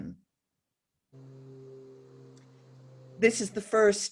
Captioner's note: machine buzzing